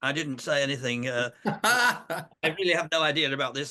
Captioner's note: laughing